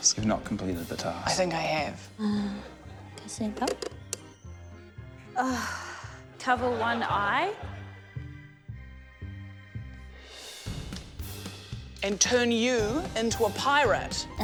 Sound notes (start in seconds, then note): 5.3 sighs